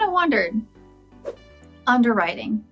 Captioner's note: whooshes